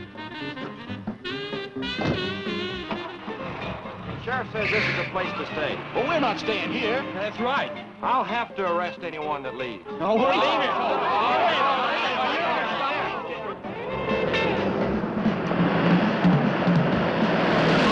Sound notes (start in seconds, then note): 0.2 upbeat jazz music; 9.9 all chattering